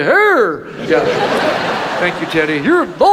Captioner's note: audience laughs